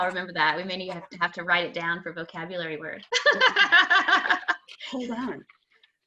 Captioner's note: laughter